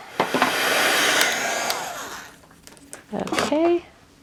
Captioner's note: heat tool buzzing